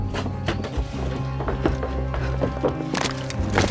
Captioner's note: door thuds; bone cracks